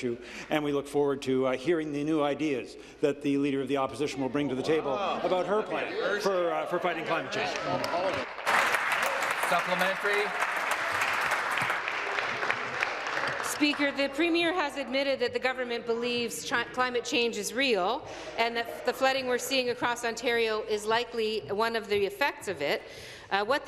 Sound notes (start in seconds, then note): 11.3 applause